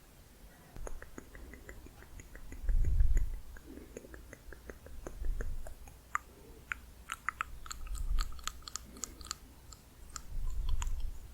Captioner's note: varied tongue clicking